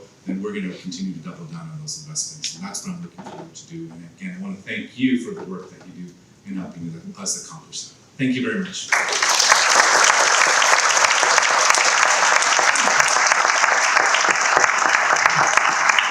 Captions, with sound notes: And if it's so, then we're gonna continue to double down on those investments and that's what I'm looking forward to do. And again, I want to thank you for the work that you do in helping us accomplish that. Thank you very much. (audience clapping)